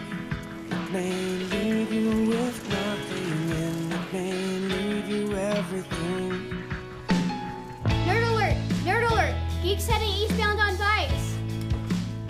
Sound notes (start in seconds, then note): none